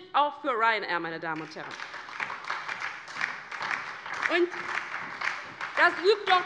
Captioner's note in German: Beifall bei der LINKEN und der SPD